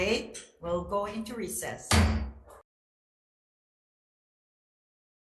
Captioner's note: gavel bangs